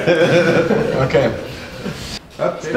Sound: laughs

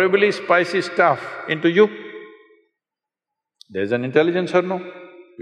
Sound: none

